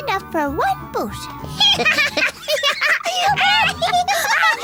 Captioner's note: laughing